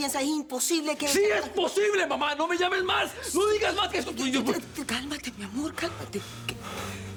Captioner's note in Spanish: Gritando